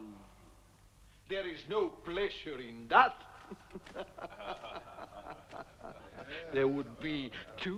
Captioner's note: laughing